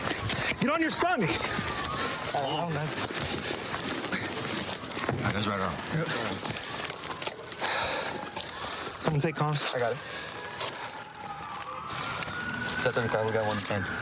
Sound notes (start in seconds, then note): 6.5 sirens in distance